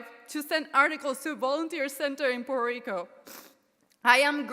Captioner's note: sniffles